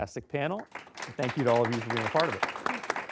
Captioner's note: applause